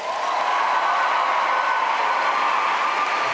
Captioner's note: applause and cheers